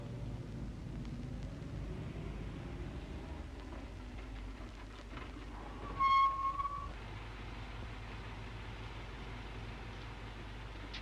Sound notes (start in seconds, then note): 6.4 brakes squeal